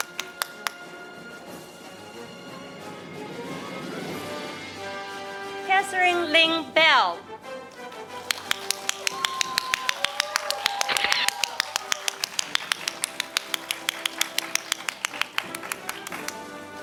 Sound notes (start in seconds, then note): 1.4 orchestral music; 8.2 audience cheering; 12.9 audience applauding